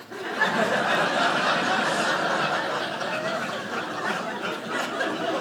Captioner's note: audience laughing